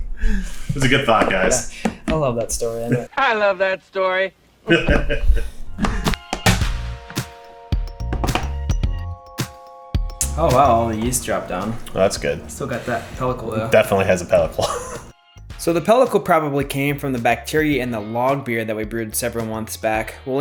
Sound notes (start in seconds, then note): 4.6 laughs